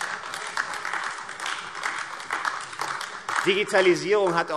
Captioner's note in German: Beifall AfD